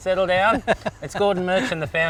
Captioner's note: laughs